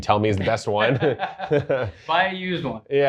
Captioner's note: both laughing